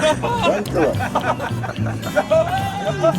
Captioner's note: laughter